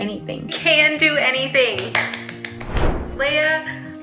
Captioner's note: claps